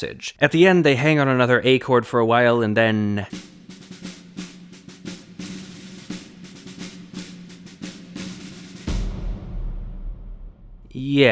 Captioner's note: bang